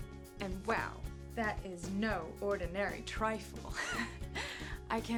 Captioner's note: laughs